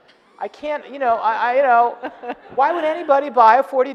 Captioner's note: audience laughing